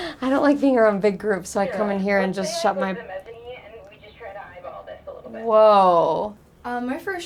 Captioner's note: intercom